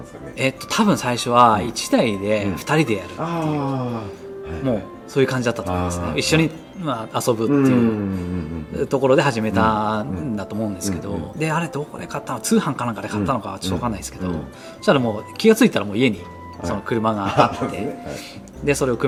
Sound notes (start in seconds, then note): 9.4 laugh